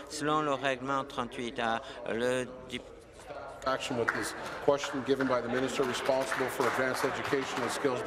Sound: speaking in French

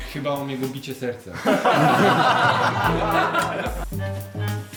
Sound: laughter

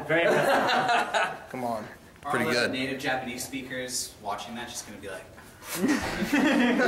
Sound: laughing in background

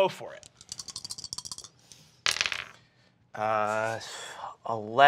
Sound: dice rattle

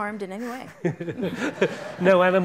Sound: audience laughing excitedly

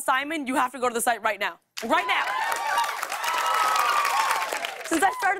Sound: cheers and applause

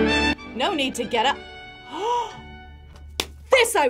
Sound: upbeat music; gasps

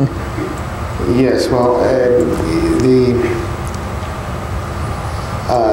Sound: laughs

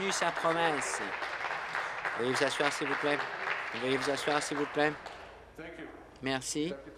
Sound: applause

